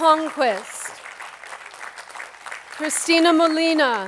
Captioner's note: attendees clapping